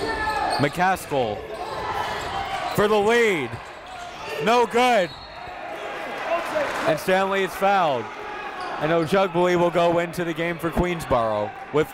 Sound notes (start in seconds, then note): 5.0 whistle blows